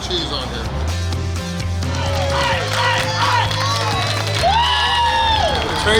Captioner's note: cheering & Clapping